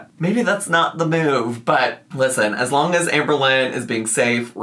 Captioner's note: none